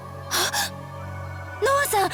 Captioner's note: gasp